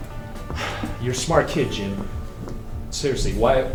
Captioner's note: sighs